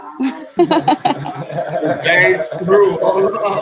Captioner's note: laughing